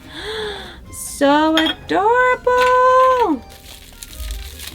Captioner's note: gasp